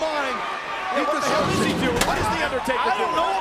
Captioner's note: overlapping chatter